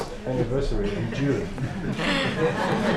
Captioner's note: laughter